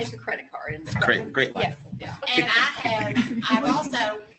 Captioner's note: laughter